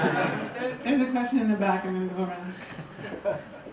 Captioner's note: laughter; voiceover